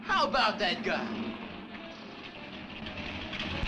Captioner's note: engine rumbling; lively music plays on radio